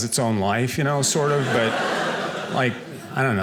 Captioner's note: audience laughing